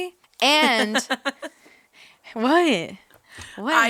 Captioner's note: giggling